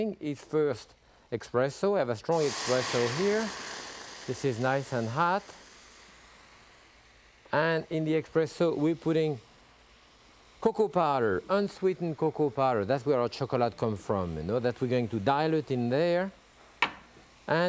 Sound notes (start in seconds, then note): 3.2 pan sizzling